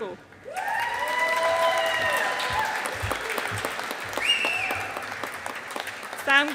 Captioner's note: audience applauding